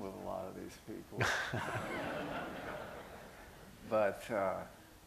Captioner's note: laughter